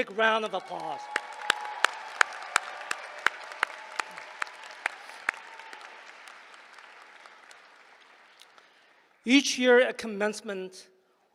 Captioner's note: applause